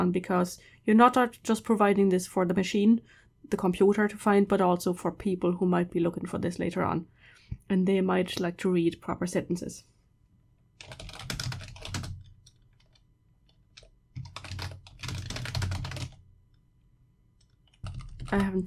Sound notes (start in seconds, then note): 14.1 typing